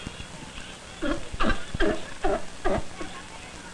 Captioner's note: sea lion barking